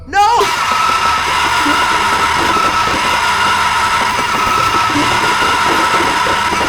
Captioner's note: evil screaming; ominous music